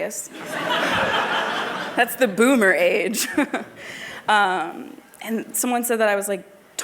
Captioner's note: laughter